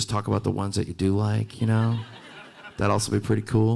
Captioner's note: audience laughing